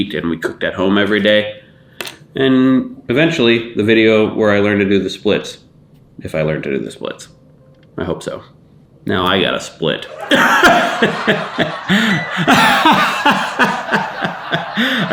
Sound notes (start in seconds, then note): 10.1 laughs; 10.1 audience laughing